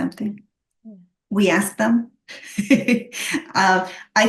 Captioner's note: laughs